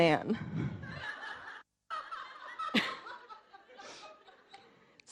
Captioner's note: audience laughing